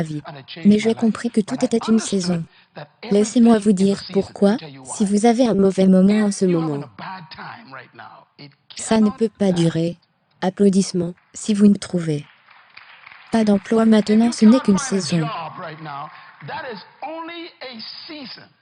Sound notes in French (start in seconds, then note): 12.2 applaudissements de l'assistance